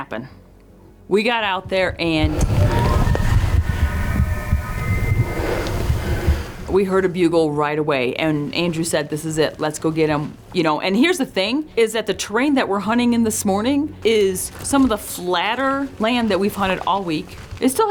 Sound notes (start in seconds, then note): 6.1 elk bugling